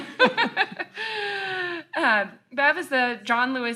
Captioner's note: laugh